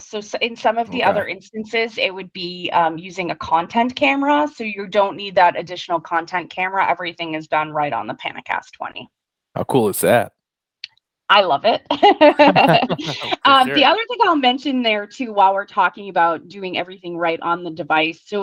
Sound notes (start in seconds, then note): 12.0 laughter